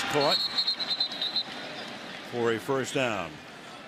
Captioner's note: whistles